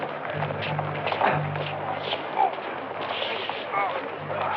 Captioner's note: Number Four groaning